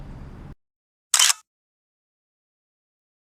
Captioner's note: photo Click